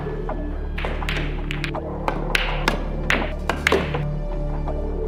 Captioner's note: eerie music plays; balls tapping